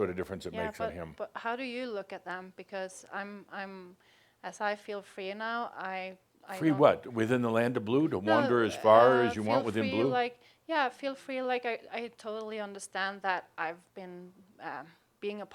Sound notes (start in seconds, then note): none